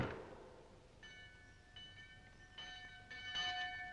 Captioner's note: bell ringing